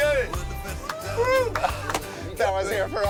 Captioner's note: cheering